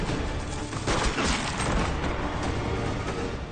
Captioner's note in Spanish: Disparo